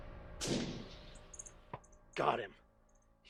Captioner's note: gunshot